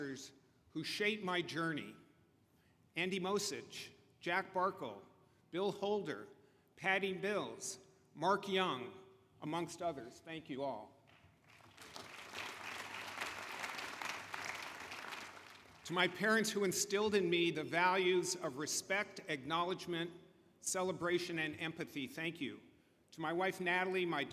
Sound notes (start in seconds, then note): 16.2 applause